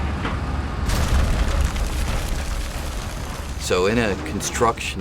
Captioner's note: crashing